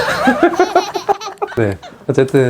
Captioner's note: haha